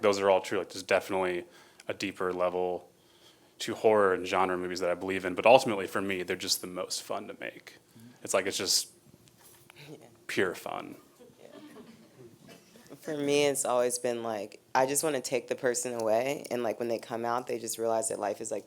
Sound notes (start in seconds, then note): 11.2 laughing